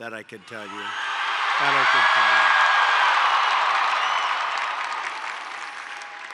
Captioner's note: applause